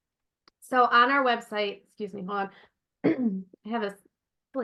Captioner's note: coughs